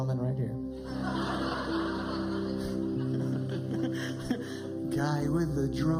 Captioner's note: laughter